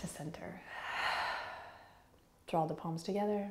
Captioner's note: exhaling